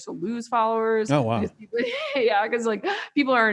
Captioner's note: laughs